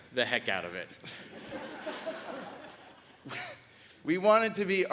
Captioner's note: audience laughs